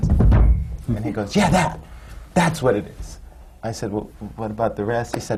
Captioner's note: bangs on the floor